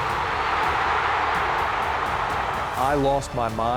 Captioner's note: fans cheering